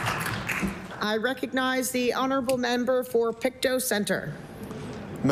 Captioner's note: applause